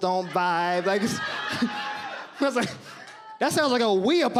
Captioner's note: audience laughs